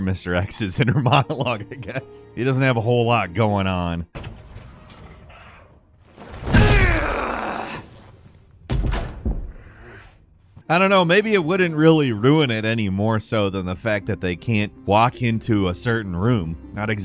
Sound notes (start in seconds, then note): 6.8 character growls; 8.6 door thuds